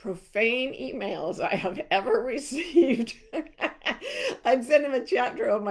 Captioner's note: laughing